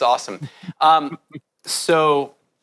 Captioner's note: laughs